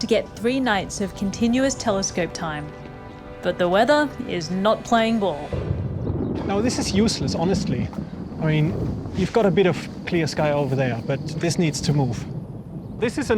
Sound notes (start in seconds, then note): 6.0 thunder rumbles